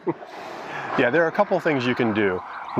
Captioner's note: laughs